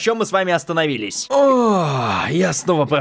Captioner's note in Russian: Звук Облегчения